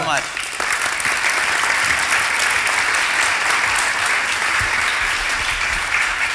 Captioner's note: applause